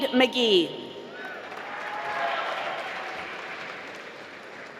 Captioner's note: applause